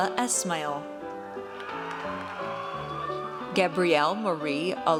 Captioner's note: audience cheers